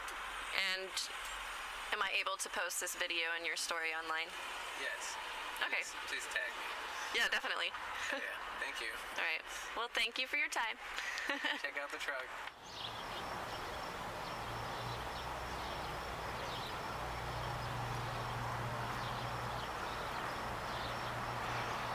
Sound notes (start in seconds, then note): 11.0 laughs; 12.7 birds chirping